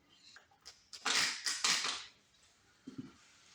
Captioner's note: pump bottle squirts